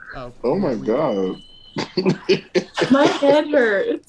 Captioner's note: laughter